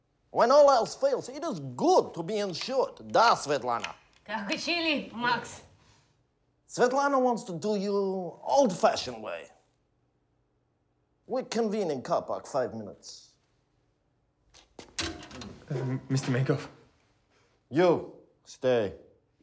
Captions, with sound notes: When all else fails, it is good to be insured. - Da, Svetlana? - (replies in Russian) Svetlana wants to do you old-fashioned way. We convene in car park five minutes. - Uh, Mr. Menkoff... - You. Stay.